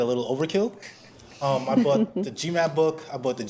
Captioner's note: laughs